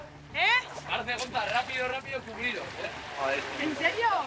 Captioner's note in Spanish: none